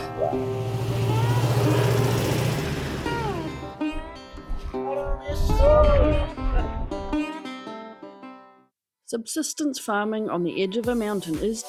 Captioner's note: truck rattles past